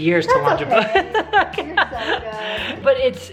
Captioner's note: laughs